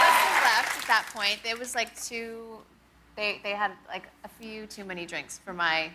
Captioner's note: cheers and applause